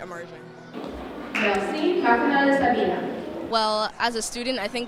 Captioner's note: speaking foreign language